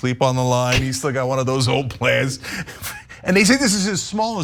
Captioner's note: laugh